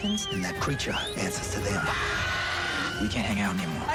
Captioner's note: screaming